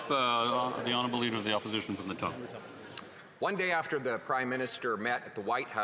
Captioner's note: speaking French